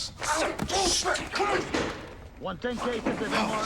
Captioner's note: yelling; door opens